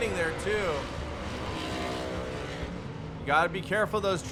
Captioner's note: truck engine revving